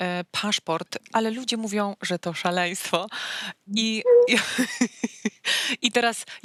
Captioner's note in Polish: śmiech